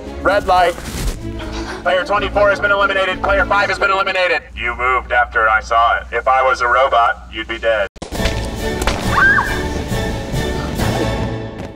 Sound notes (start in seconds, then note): 8.1 paint splattering; 9.0 screams